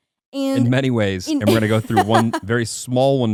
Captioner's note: laughing